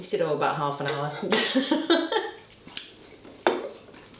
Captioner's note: laughs